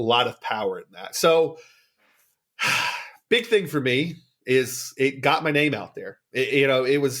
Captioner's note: sigh